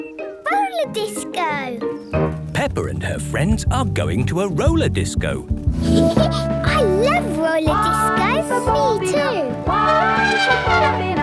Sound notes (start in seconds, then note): 5.7 Peppa laughing; 9.6 trumpeting